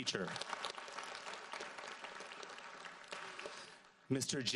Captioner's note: audience applauds